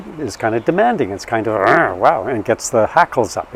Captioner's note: growls